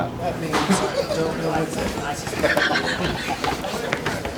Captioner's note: laughing